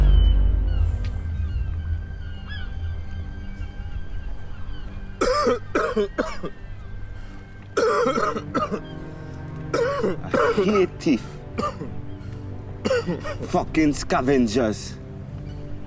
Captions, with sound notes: [COUGHING] I hate thieves. Fucking scavengers.